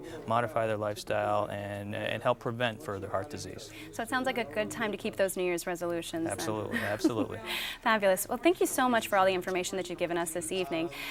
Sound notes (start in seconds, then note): 6.4 chuckles